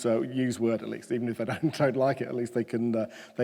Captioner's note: chuckles